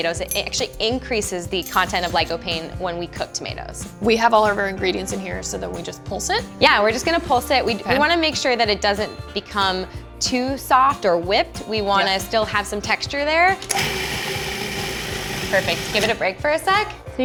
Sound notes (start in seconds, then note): 13.6 food processor pulsing